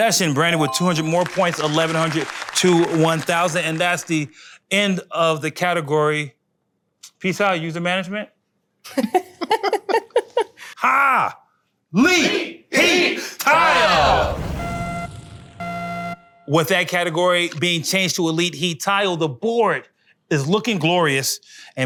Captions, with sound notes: Session, Brandon, with 200 more points, 1100 to 1000. And that's the end of the category. Peace out, user management. (laughing) Ha, Leet. Heat Tile. (buzzer) With that category being changed to a Leet Heat Tile the board is looking glorious.